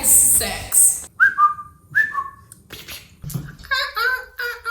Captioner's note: animated noises